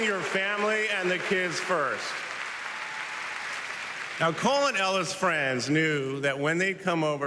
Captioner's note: cheers and applause